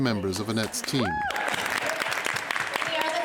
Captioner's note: audience applauding